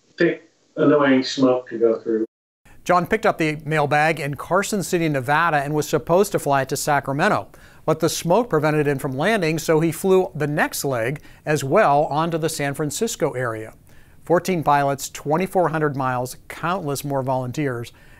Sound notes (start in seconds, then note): none